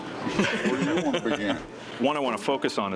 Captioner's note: laughs